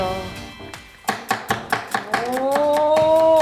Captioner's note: onion slicing ASMR